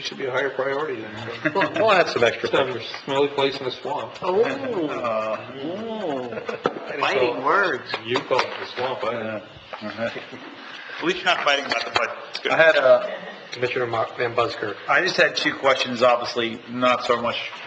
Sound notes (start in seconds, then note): 1.1 laughing; 5.6 members chattering